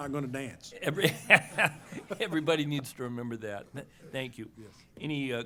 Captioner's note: laughs